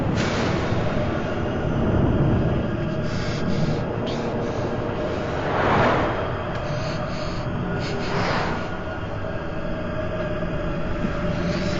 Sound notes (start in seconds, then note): 2.6 warped voices and rumbling roar; 6.5 gaspsing